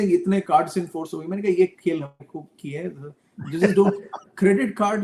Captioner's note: laughs